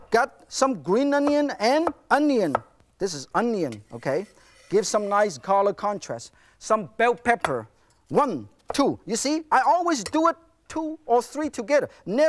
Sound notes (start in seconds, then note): none